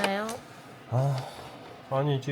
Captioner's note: sigh